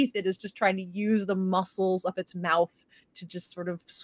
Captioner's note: none